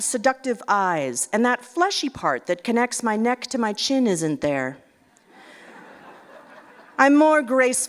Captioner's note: laugher